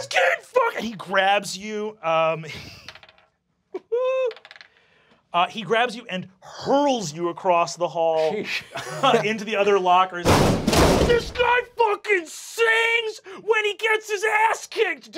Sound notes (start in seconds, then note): 10.2 loud banging